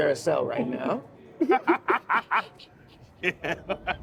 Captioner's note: laughing